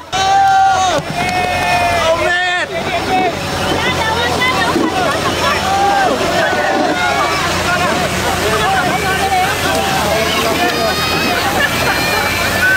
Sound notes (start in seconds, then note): 0.1 crowd applauding; 4.2 crowd cheers in foreign language; 6.9 motors hum; 9.7 crowd cheering